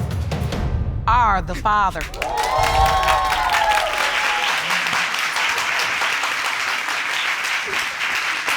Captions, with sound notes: Are the father. (AUDIENCE CHEERING)